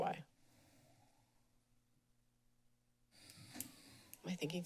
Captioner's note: pause